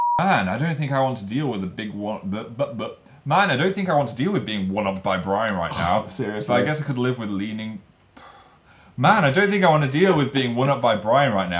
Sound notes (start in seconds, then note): 5.4 scoffs; 8.2 sighs; 9.0 laughs